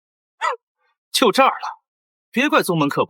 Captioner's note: cough, cough